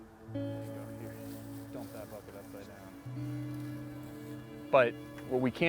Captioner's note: volunteers chatter